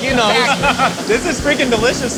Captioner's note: laughs